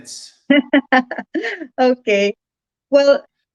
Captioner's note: chuckles